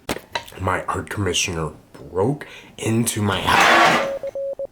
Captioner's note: crash